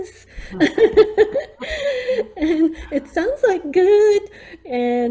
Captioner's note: laughing